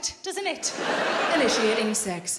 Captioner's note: laughing